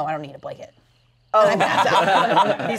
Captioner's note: everyone laughs